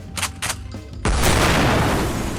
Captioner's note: chk chk; blam